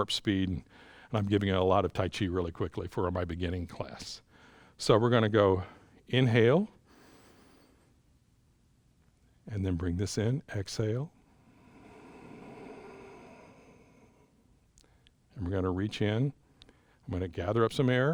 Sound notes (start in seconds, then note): 6.8 inhales; 11.1 exhales